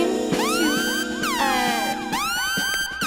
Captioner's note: Kill Bill Sirens continue